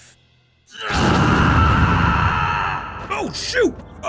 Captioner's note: screams